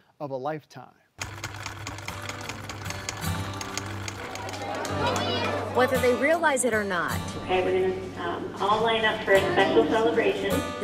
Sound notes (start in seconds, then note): 1.2 machine whirring; 2.0 mellow guitar music